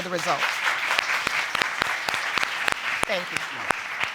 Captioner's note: applause